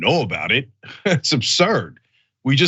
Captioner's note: laugh